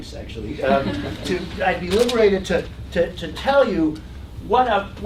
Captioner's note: laugh